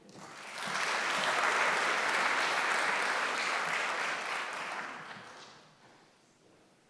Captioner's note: applause